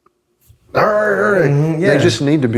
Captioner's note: growls